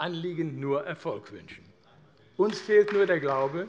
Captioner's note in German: Vereinzelter Beifall AfD